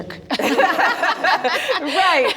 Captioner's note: participants laughing